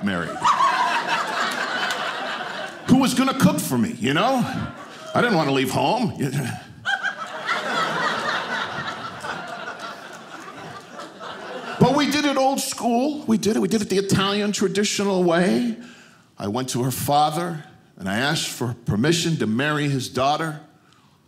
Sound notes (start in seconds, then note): 0.1 audience laughing; 6.2 audience laughing